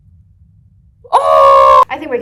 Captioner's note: scream of realisation